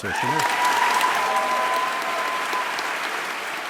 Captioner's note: cheering and applause